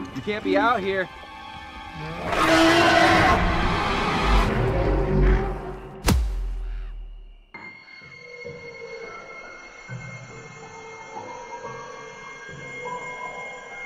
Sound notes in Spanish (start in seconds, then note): 2.6 gritando